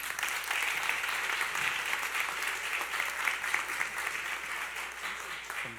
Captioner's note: applause